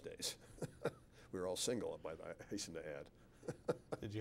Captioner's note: laughs